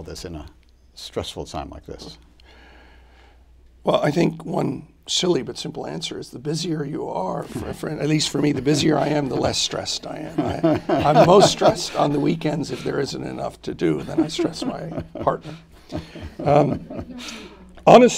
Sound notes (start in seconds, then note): 15.5 laughter